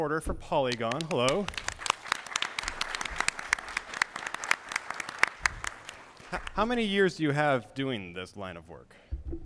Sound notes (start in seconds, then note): 4.6 applause